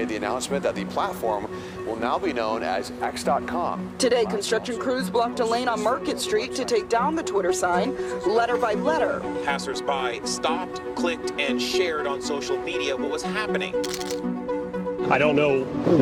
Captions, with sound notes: will now be known as X.com. >> Today, construction crews blocked a lane on Market Street to take down the Twitter sign letter by letter. >> Passersby stopped, clicked, and shared on social media what was happening. (cameras clicking) >> I don't know what the thought process is.